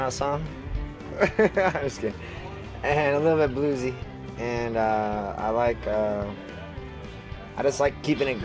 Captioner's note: laughs